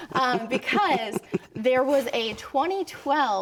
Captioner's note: laughter